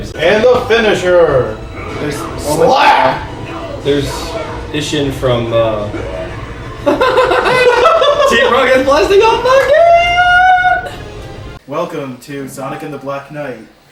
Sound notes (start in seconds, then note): 6.8 cackles